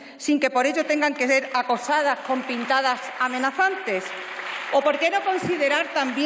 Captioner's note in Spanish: Aplausos